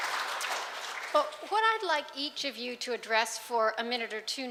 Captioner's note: clapping